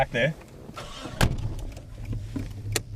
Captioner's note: engine starts